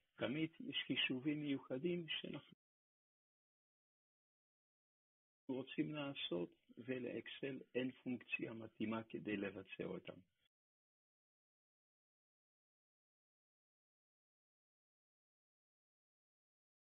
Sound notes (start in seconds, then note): 0.1 Hebrew spoken; 5.4 Hebrew spoken